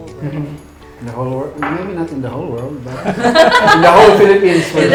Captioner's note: laughs